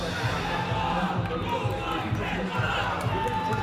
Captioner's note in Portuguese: grito de guerra